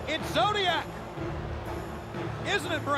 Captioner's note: crowd cheering